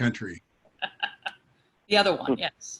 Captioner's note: laughing